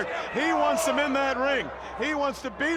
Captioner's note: crowd chatter